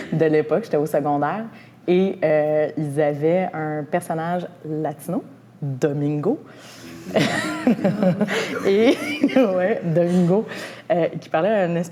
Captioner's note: laughter